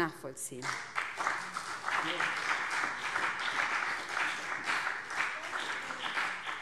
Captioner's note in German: Beifall BÜNDNIS 90/DIE GRÜNEN und vereinzelt CDU